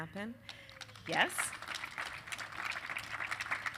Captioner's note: applause